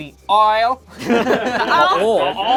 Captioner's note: group laughs